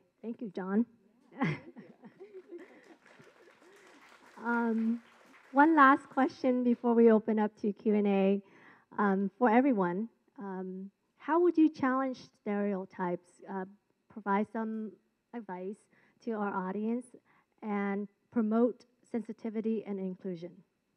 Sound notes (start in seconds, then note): 1.3 chuckles; 1.8 clapping